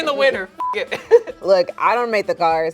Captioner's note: laughs